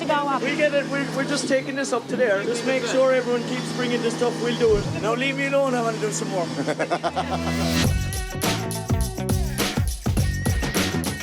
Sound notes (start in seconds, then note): 6.5 laughs; 7.2 upbeat rock music